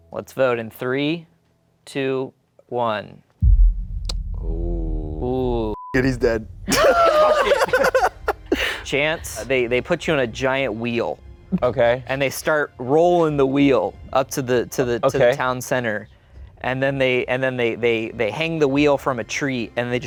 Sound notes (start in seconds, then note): 5.7 beep; 6.7 laughs